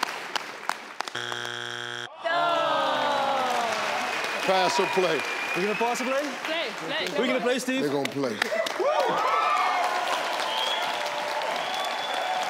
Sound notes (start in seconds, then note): 1.1 buzzer buzzing; 2.1 audience groans; 8.5 audience cheers